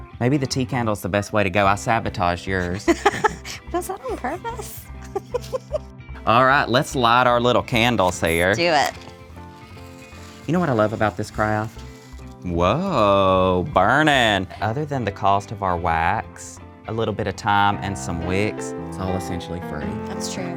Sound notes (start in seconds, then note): 2.6 laughs; 5.2 both laugh